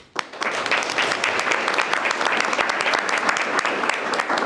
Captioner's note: all applauding